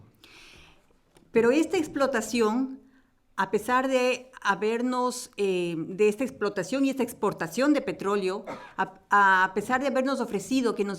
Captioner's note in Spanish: Español